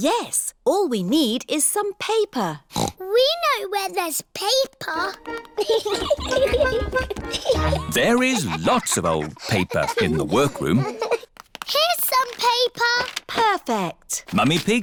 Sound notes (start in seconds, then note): 2.7 snorts; 5.5 giggling